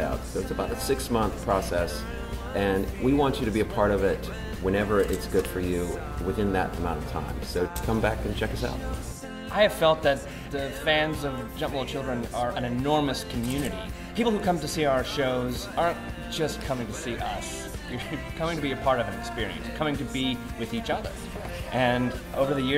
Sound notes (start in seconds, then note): 17.9 chuckles